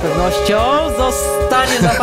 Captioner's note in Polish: klakson